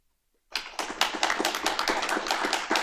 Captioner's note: applause